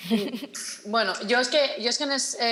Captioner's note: she laughs